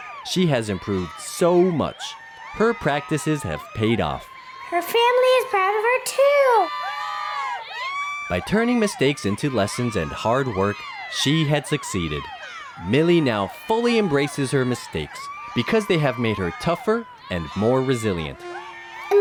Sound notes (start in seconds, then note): none